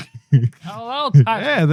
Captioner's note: laughing